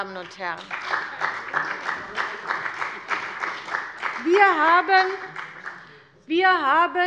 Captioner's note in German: Beifall bei der CDU und dem BÜNDNIS 90/DIE GRÜNEN